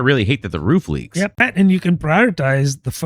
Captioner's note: uh